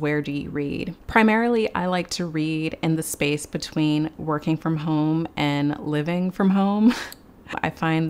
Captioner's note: chuckles